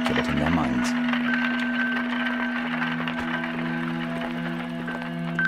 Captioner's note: wagon clattering